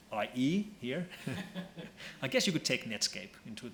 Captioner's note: laughs